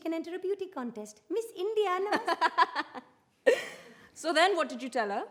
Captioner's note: they laugh